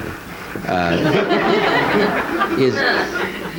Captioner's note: audience laughing